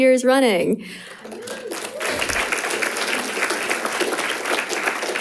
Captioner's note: audience applauding